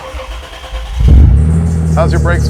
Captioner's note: engine starts